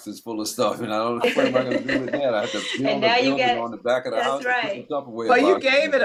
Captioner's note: laughter